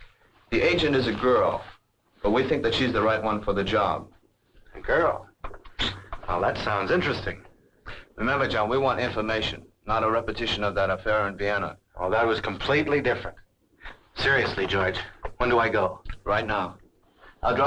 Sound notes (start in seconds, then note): 4.5 chuckles